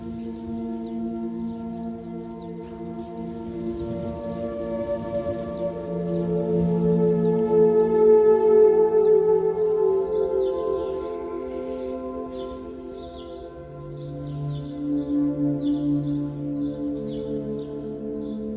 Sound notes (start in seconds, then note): 0.0 light gentle relaxing music; 0.0 waves crashing; 10.7 birds chirping; 10.7 light gentle relaxing music